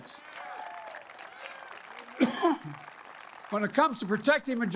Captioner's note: applause